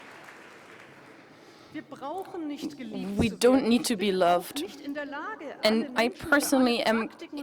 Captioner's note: applause